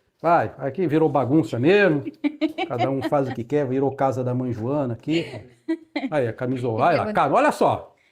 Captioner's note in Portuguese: risadas